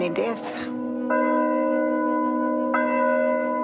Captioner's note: bell tolling